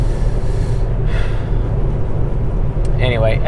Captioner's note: sighs